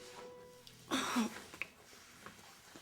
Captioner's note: Justine grunts